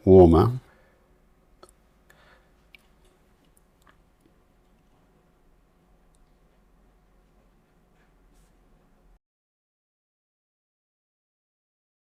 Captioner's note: silence